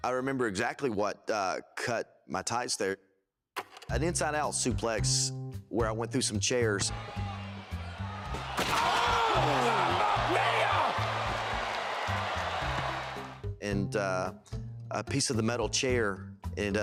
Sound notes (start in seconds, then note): 11.4 crowd cheers